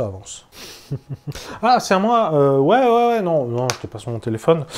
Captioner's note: laughing while looking at her phone